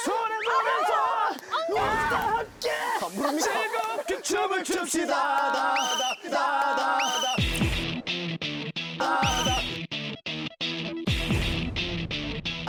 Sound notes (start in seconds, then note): 5.6 whistle; 9.2 whistle~